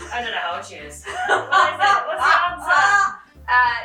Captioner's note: laughing